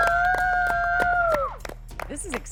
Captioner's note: cheers; applauses